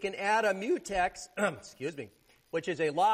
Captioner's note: clears throat